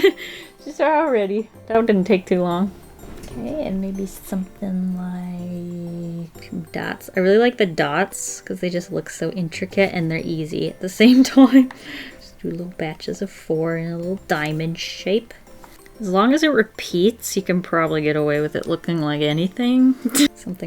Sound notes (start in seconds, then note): 0.0 laughs; 11.5 laughs